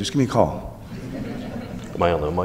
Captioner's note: laughing